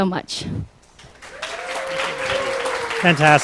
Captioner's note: applause